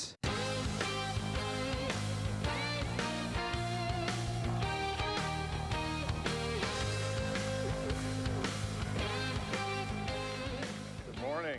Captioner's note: applause